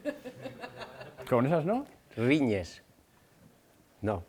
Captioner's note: laughs